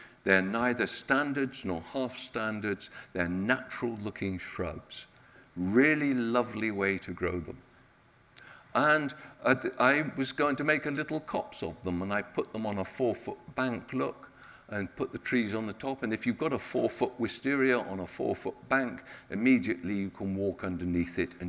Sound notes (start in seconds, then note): none